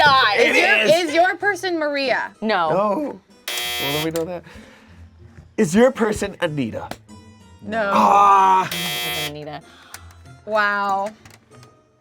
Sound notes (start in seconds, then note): 3.4 buzzer buzzes; 8.6 buzzer buzzes